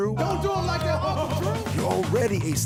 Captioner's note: crowd banters